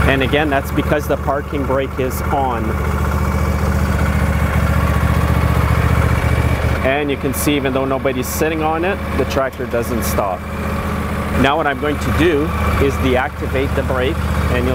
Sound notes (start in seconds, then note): 3.0 engine revs